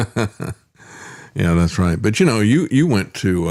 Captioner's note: laughing